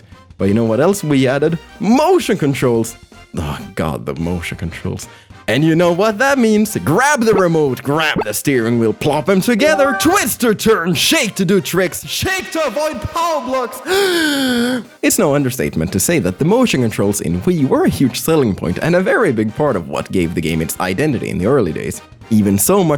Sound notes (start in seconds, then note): 13.8 deep breath